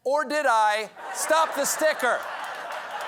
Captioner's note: laughter; applause